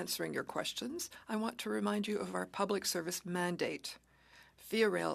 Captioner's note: speaking French